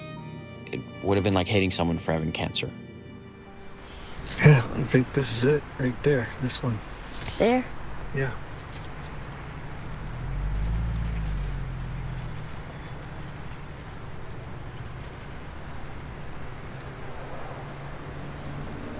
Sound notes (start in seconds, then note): 10.4 car humming